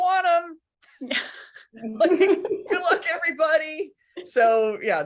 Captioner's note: laughing